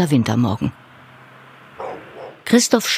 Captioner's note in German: Gedämpftes Hundebellen